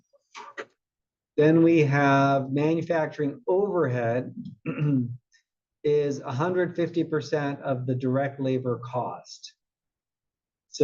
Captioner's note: cough